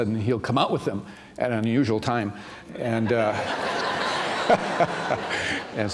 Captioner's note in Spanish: risas